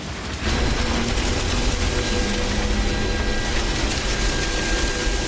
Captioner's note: airplane engine whirring